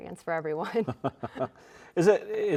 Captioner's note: both chuckling